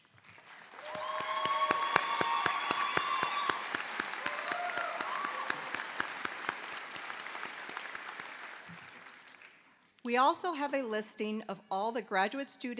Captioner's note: applause